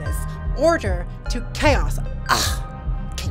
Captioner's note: scoffs